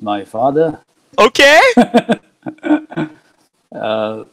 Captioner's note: laughs